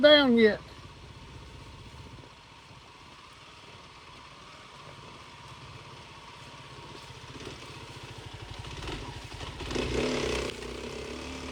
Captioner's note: motor rumbling